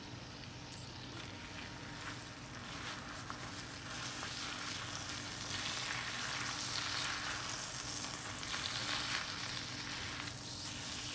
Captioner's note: sizzling